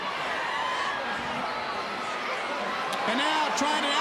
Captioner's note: crowd cheering